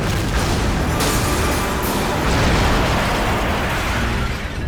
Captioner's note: explosion booms